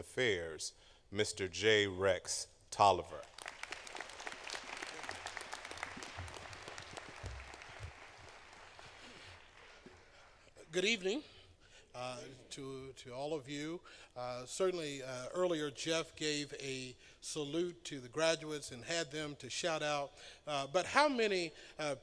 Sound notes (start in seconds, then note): 3.1 applause